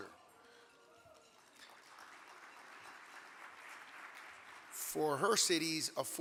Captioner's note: audience clapping